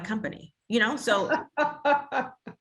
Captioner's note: laughs